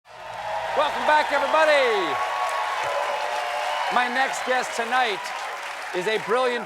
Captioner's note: cheers and applause